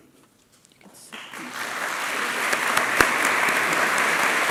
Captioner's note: applause